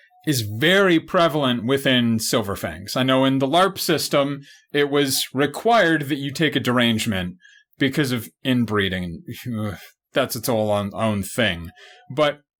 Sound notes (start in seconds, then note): 9.0 disgusted noises